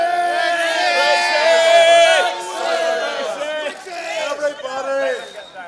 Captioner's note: shouting